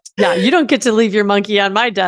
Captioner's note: laughs